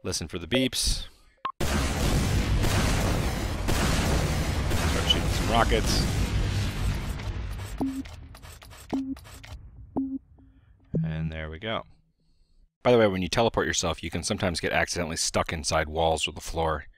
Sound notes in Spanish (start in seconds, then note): 1.6 sonidos de Cohetes siendo disparados; 7.5 Tonos